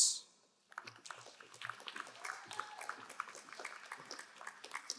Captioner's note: crowd applauding